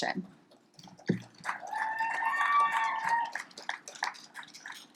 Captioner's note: audience applauds